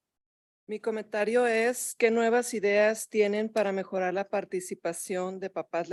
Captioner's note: speaking in Spanish